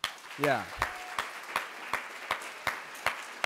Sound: applause

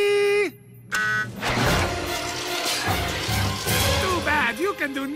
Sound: beeps

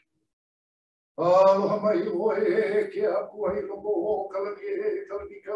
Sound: prays in foreign language

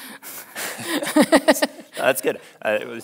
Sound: both laughing

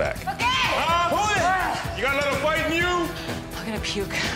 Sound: men yelling

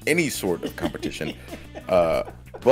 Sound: laugh

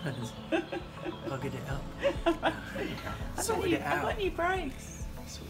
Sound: laughs

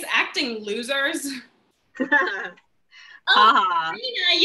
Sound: Molpe & Millicent laugh

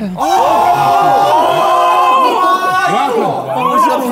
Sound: Sidemen yelling

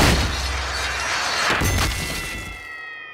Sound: dinging

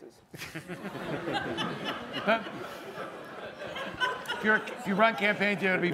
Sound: laughter

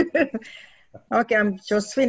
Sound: laughs

